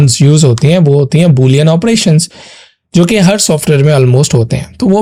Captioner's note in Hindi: नाक से की जाने वाली आवाज़